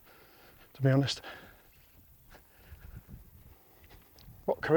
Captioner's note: dirt crunching